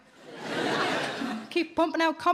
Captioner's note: audience laughing